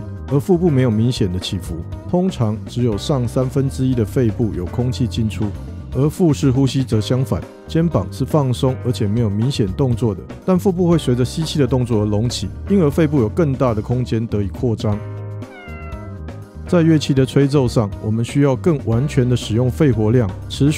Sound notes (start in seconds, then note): 15.4 meow